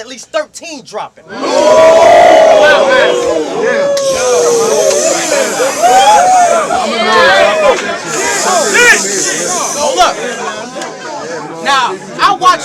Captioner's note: crowd Reaction